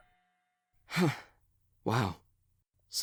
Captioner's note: sighs